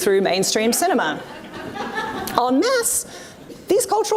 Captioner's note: audience laughs